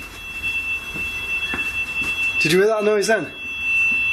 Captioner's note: whistles